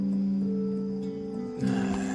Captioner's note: sighs